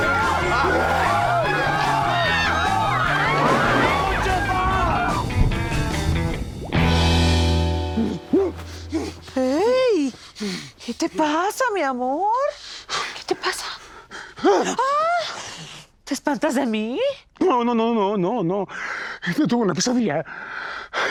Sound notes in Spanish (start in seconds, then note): 0.0 Hablan al unísono; 2.8 Gritos y exclamaciones